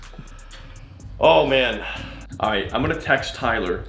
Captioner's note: sighs